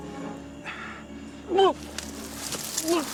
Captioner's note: dry heaves